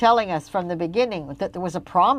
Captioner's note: speaking French